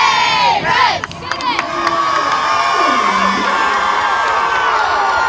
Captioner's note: cheering